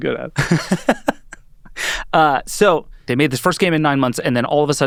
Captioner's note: laughing